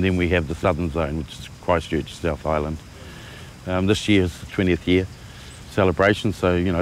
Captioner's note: none